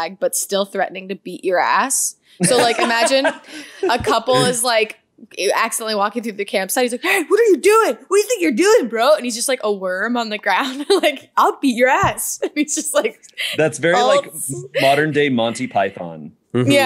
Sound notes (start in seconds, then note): 2.4 laughter; 10.8 laughs; 13.4 laughs